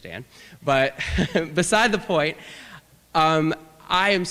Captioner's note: laughter